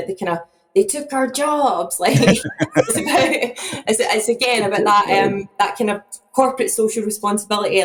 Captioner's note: laughs